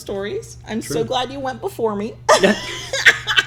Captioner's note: laughs